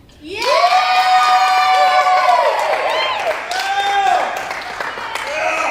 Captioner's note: cheering